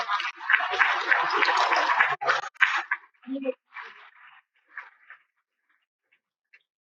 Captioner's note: cheers and Applause